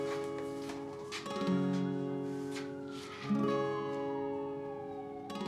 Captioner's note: gentle bright music; sirens wailing